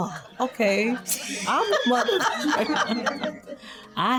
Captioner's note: laughing